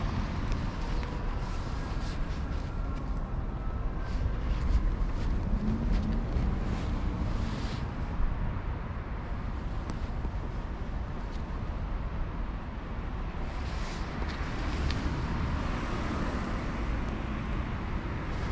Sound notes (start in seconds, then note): 10.4 rear approaching vehicle